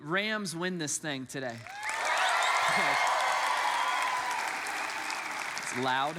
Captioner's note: congregants cheer and applaud